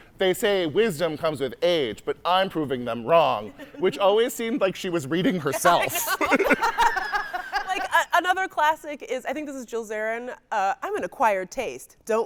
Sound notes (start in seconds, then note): 5.8 laughing